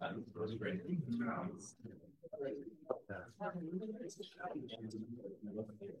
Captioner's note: panelist speaking faintly